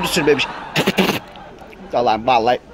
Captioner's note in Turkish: Tükürme sesi